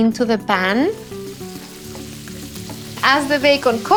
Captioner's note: sizzling